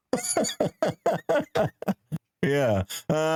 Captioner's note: laughing